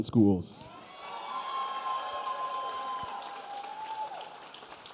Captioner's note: audience cheering